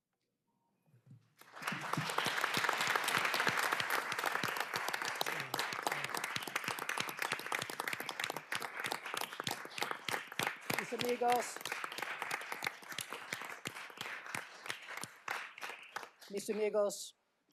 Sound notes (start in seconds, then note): 4.5 applause